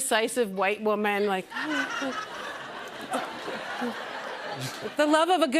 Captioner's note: laughter